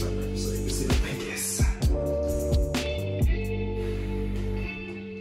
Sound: exhales

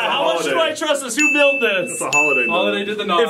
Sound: ding

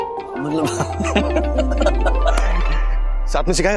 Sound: laughs

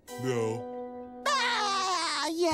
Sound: laughing

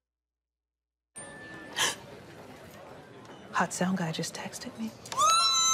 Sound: gasps; shrieks

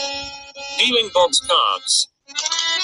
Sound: voiceover

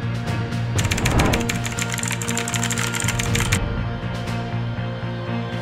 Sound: typing sound; intense Music

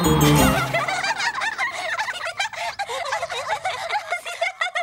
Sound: triplets laugh

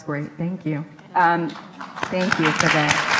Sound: applauds

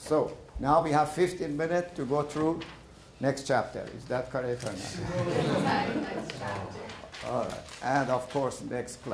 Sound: laughter

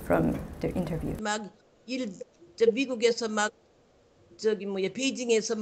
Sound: speaks in foreign language

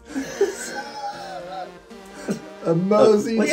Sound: both laughing

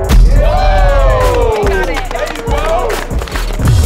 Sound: crowd cheering

